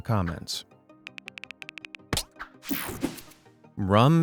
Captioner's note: screen whooshing; keys typing